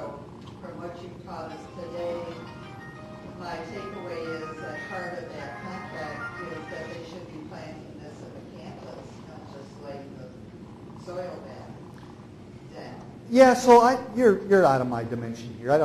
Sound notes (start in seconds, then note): 5.2 phone ringing drowns out talking